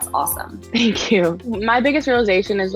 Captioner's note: chuckles